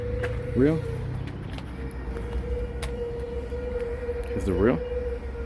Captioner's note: truck braking in background